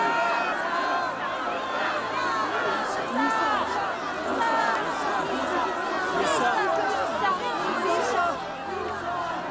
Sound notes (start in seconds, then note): 0.0 more chanting of "myhsa!"; 3.2 chanting grows louder